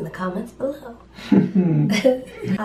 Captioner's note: laughter